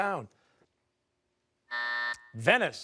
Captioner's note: timer